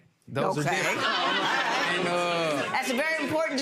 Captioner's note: crowd laughs